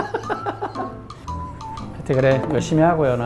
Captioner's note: haha